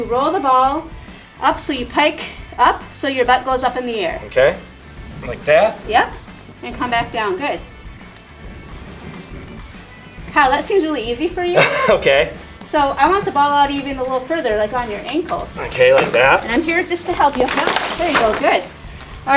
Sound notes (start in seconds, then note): 11.5 laughter